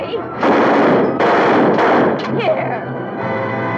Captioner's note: gun firing